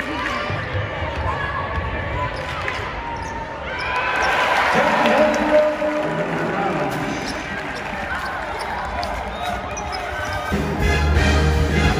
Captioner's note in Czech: Potlesk